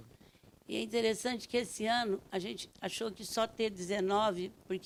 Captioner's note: speaking Portuguese